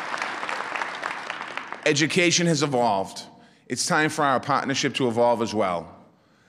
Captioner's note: applause